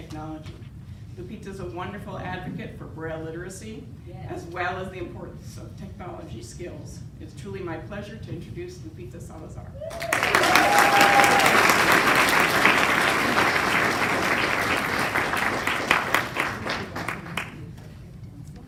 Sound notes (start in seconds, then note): 9.9 applause